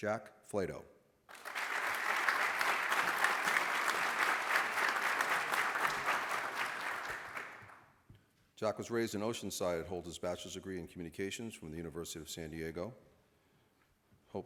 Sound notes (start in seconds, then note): 1.3 applause